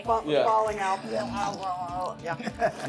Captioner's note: lots of gross guts noises